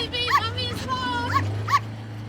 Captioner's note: barking sounds; light music